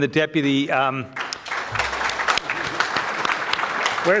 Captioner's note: audience clapping